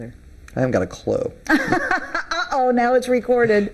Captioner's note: laughing